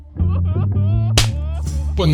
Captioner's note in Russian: хлопок ладошкой по лицу